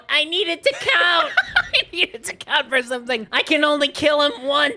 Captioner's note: Spongebob voice; laughing; Spongebob voice